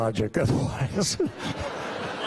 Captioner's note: laughter